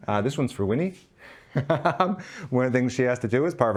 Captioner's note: laughing